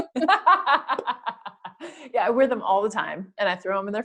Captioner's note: laugh